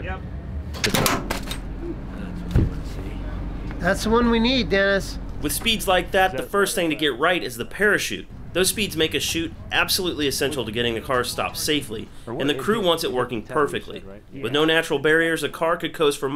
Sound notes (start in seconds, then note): 1.6 parachute clanking